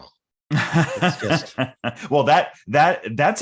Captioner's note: laughing